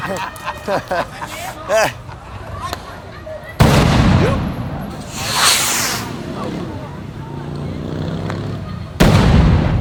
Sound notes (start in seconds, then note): 3.6 explosion